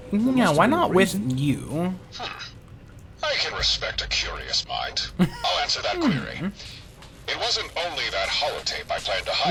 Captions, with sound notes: No, why not with you? (laughing)